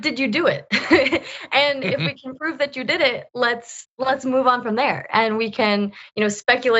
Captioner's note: laugh